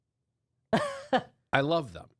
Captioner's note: laughs